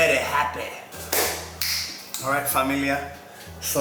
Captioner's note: snapping sound